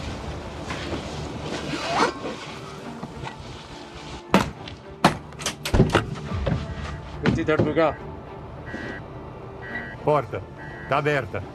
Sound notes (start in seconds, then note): 7.2 alarm buzzing; 7.2 officer speaking Indonesian; 10.0 in English